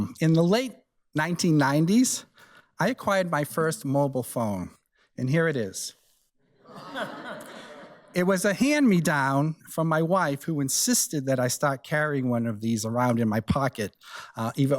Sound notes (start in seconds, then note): 6.6 audience laughs